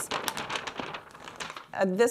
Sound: paper crinkling

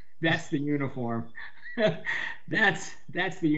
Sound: laughs

